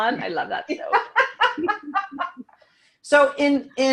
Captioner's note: laughing